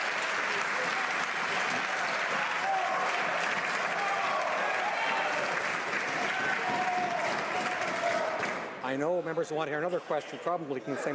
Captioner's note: some Applause